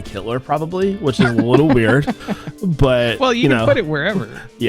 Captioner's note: chuckles